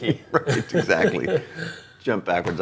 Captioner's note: laughing